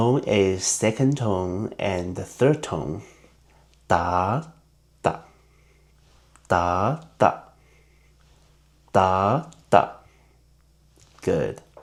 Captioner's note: in Mandarin